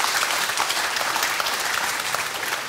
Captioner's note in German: Applaus